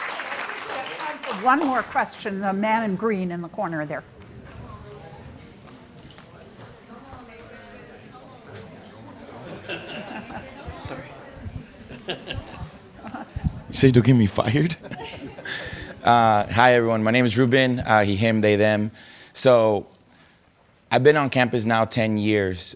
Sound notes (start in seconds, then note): 0.0 audience clapping; 9.3 chuckles; 14.8 woman chuckles